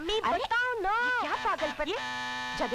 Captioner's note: Doorbell rings